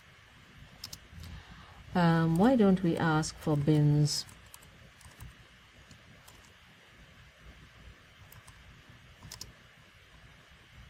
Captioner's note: pause